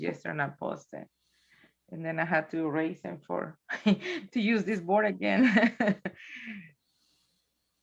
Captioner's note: chuckles